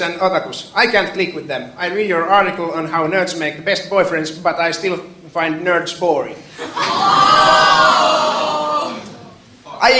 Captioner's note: shouting